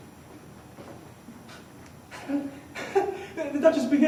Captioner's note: laughing